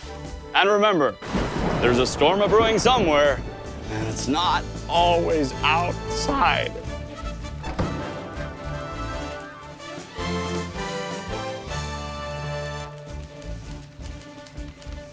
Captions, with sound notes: And remember, (lightning crashing) there's a storm a brewing somewhere, and it's not always outside. (outro music)